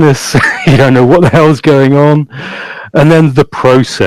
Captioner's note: laughs loudly